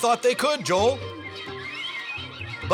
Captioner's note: birds squawking